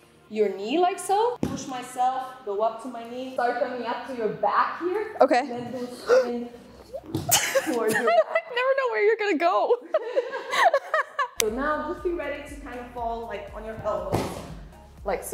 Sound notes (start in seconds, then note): 9.8 laughing